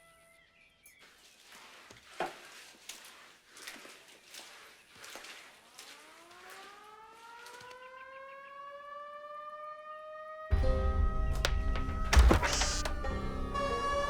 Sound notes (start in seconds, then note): 6.0 siren blaring; 10.5 suspenseful music